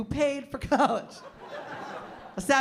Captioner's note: laughter; laughs